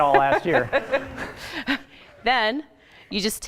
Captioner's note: laughing